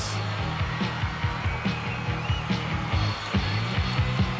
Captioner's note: crowd cheers